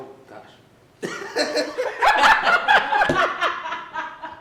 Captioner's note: laughs